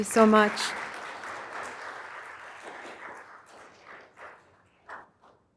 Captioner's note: applause